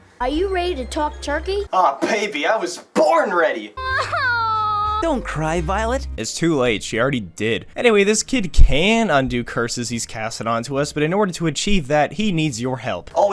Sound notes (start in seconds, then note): 3.8 crying